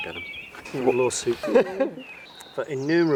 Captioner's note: laughter